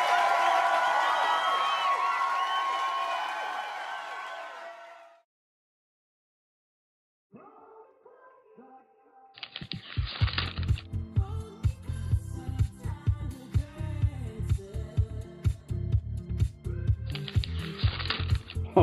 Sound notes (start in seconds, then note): 9.4 page turns